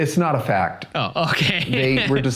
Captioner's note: laughing